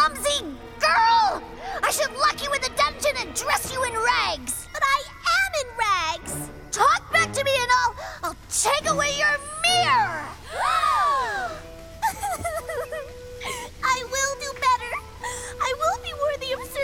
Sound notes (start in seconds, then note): 9.8 gasping; 11.1 weeping